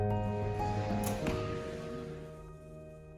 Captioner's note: arrow hitting target